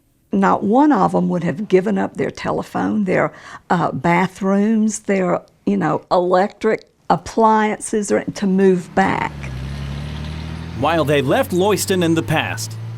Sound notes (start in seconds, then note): 8.6 engine rumbling